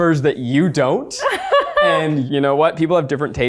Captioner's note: laughs